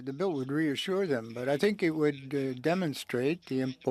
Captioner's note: speaking French